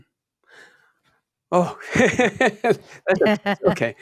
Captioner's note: both laugh